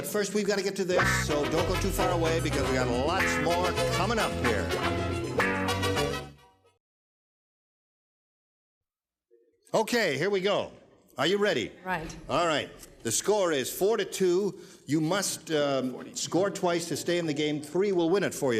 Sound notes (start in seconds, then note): none